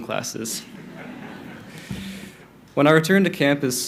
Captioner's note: crowd laughing